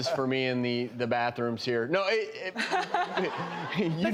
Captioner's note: laughter